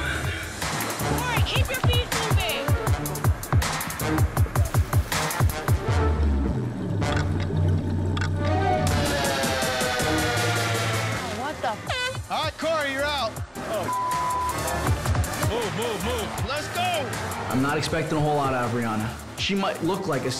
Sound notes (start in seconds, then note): 12.1 horn honks; 13.8 beep